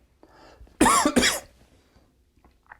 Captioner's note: cough